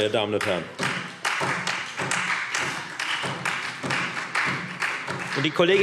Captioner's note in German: Beifall Freie Demokraten und vereinzelt SPD